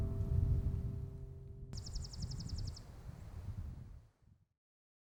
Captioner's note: bird chirping